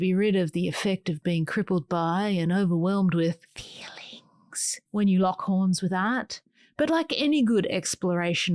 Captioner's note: whispers